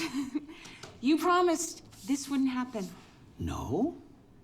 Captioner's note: laughs